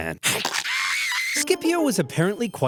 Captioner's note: Longus screeches